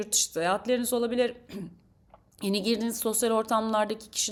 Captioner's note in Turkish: boğazını temizler